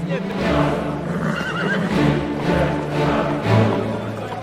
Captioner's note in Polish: odgłosy średniowiecznego miasta; rżenie konia